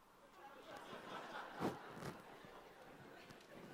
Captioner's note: audience laughter